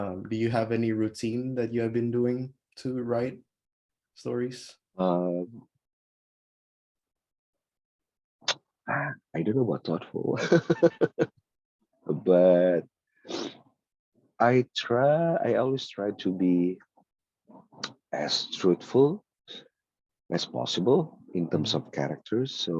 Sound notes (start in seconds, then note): 10.4 laughs